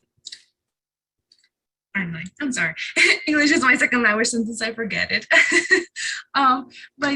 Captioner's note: chuckle